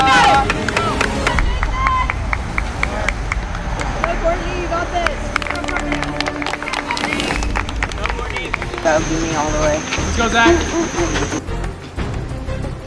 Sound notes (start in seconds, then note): 11.0 boop boop boop